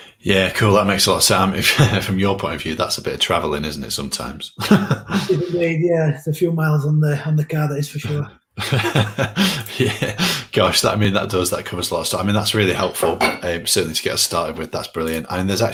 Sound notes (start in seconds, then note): 8.6 laughs